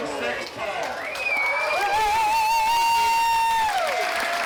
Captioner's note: crowd cheers